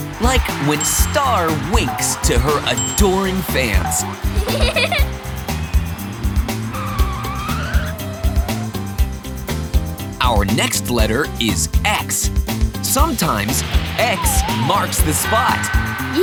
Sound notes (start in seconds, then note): 3.8 giggling; 6.9 screeching